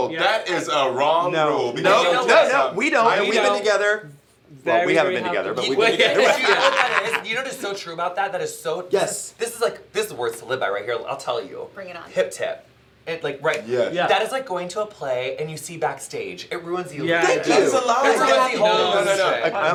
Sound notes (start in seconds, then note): 5.9 laughter